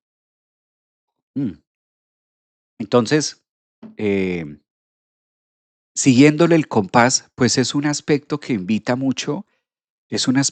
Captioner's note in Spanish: carraspeo